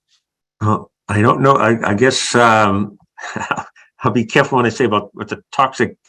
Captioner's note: laugh